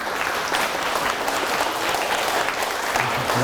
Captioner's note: applause